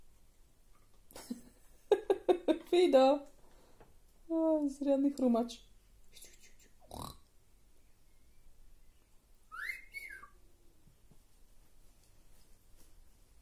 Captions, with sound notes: Fido! You are a serious cruncher! Get it! Get it! (grunting sound) (whistling)